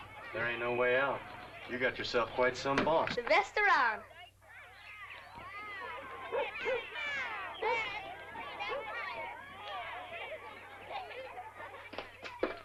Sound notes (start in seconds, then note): 5.9 dog barks; 6.3 children chatter